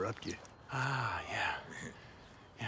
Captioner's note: Abe chuckles